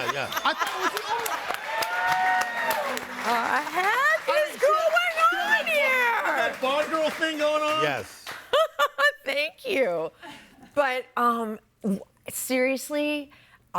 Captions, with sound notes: and I thought it was Laura. - What the heck is going on here? - You had that Bond girl thing going on. - Yes. - (laughs) Thank you. But, seriously,